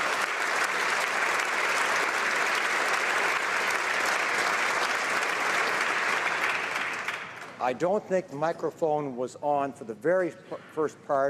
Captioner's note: applause